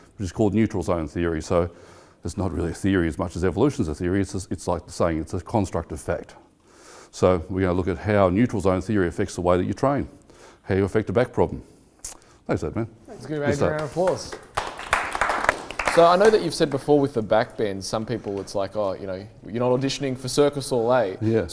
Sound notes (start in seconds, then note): 13.6 audience applause